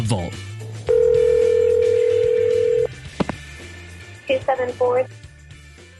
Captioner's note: phone ringing